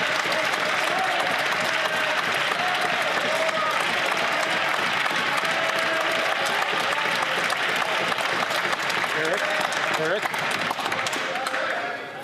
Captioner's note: some Applause